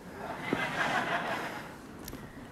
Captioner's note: laughter